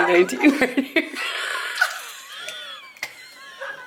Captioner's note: laughing